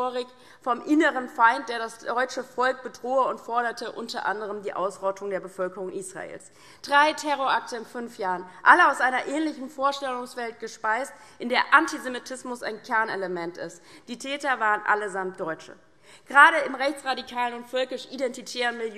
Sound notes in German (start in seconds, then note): none